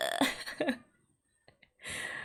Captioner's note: laughs